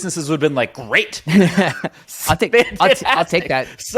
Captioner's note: laughing